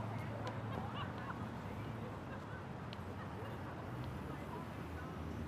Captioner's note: distant laughing